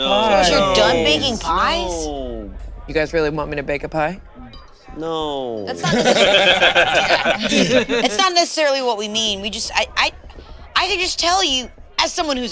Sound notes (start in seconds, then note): 5.8 all laugh